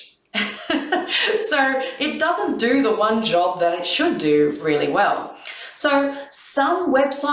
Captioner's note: laughs